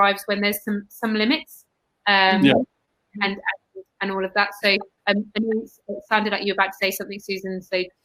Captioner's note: erm